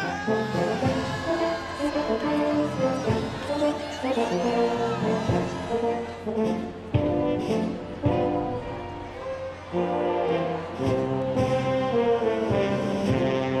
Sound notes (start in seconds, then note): 2.3 applause